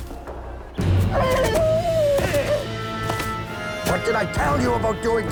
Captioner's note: whinnying